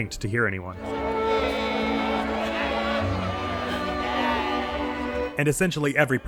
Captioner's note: patrons chatter